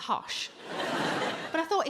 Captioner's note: audience laughing